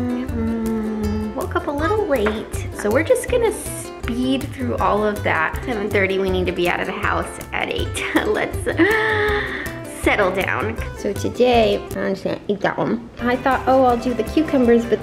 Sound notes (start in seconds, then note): 8.8 gasps